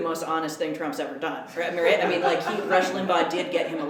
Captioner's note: laughter